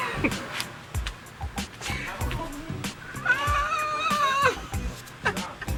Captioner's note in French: Rires; grincement avec rires